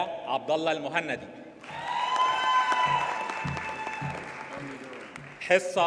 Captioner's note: audience cheers and applauds